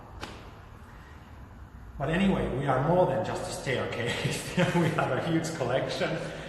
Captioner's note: laughs